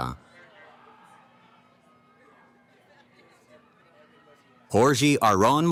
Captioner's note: cheering